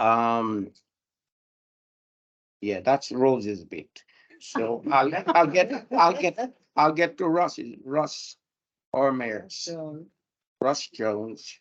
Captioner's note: panel laughter